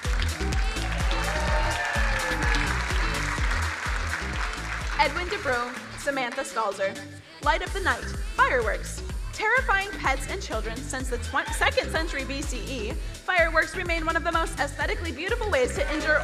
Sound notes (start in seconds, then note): 0.0 crowd cheering and applauding; 0.1 upbeat music